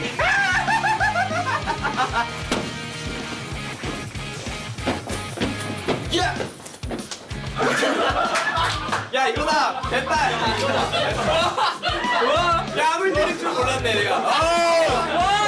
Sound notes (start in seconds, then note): 0.0 laughs; 7.4 & Staff laugh